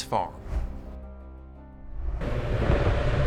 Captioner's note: transition whooshes; engine rumbles